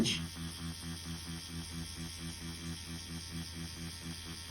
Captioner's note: machine whirring